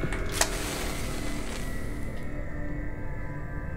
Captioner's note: strikes match